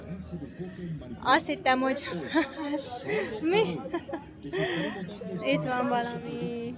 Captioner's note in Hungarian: nevetés